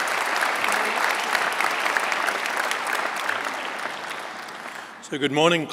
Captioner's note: applause